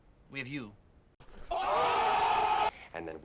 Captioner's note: people go OOOOHHH